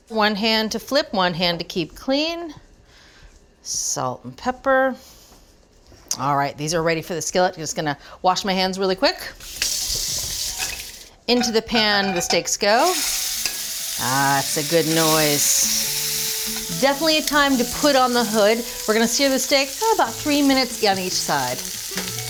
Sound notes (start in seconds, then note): 9.4 pan sizzling; 13.2 water running; 15.6 steak sizzling